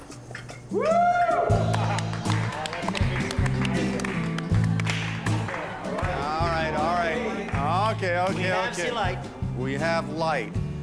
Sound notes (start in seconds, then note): 1.6 applause